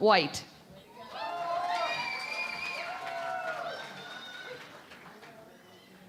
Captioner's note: cheering and Applause